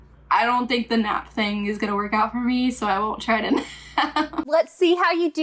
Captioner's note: laughs